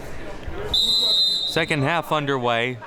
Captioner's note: whistle blowing